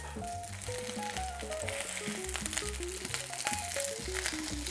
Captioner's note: sizzling sound